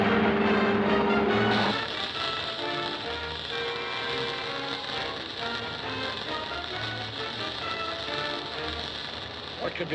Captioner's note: static